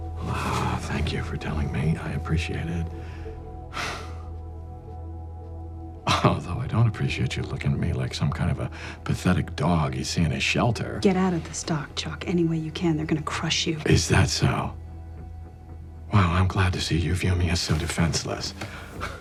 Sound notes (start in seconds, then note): 3.8 Chuck sighs; 18.9 suspenseful music continues